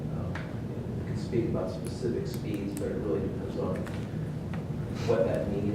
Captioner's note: speaking off mic